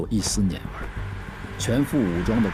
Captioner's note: Traffic